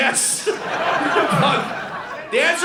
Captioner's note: audience laughing